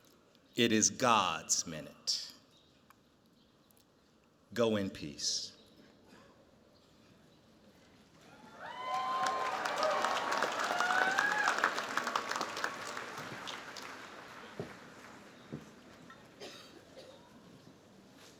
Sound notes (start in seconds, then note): 8.3 cheers, applause